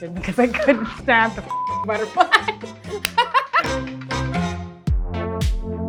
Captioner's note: beep; upbeat music